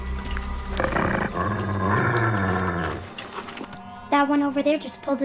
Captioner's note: Growling